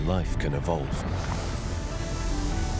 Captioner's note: water surges; mellow music